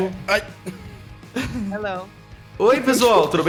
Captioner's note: in English